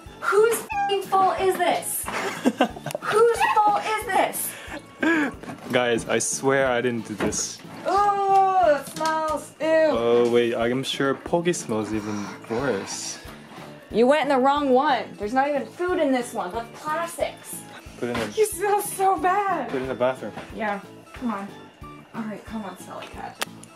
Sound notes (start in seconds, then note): 0.6 meow; 2.1 laughs; 8.5 groans